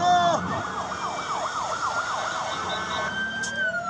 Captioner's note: sirens